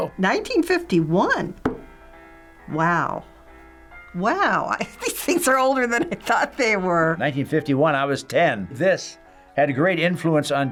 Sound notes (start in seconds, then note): 5.8 laughs